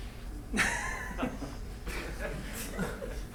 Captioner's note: laughing